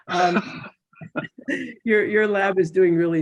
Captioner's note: chuckles